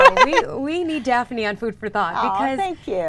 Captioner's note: laughs